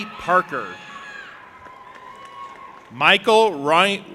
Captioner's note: audience applauding and cheering